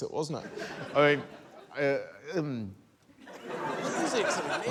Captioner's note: laughter